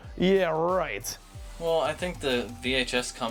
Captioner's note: none